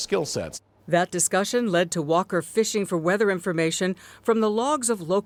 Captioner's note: voice-over